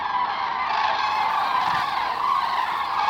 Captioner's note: cranes cawing